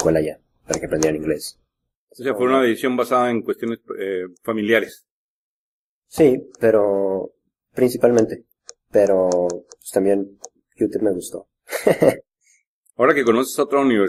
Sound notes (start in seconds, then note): 10.9 laughs